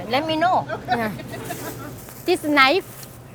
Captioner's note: laughter